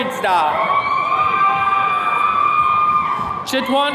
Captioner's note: attendees cheering